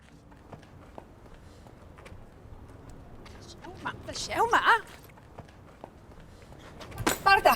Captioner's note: Sound of Andrea's mother trying to break free to reach her